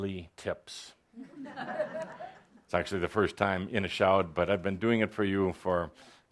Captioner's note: some laughter